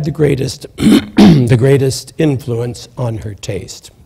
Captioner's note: clears throat